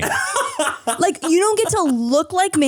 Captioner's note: Manny laughs